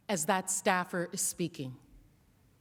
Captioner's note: whispering